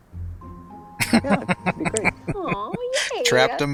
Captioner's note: laughing